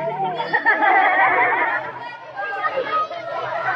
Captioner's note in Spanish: risas niños